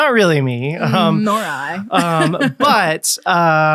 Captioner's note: laughs